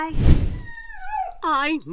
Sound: dog whining

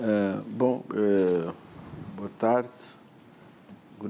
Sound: speaking portuguese

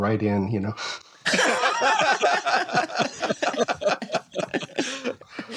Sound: laughter

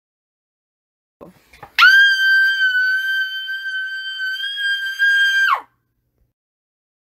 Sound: scream

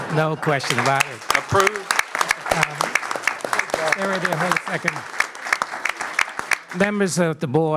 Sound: applause

